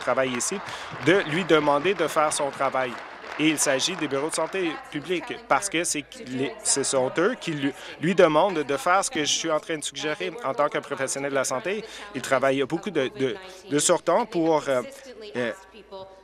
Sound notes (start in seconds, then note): 5.4 applause